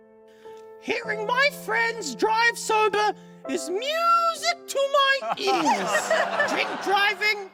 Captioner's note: laughter